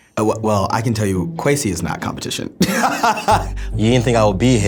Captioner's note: laughs